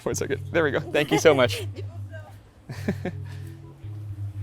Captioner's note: laughs